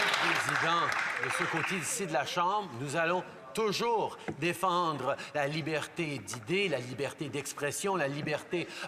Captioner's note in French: applaudissements